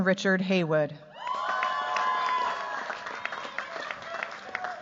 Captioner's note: cheers, applause